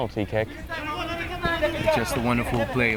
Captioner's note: players shouting